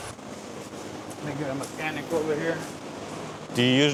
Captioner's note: truck engine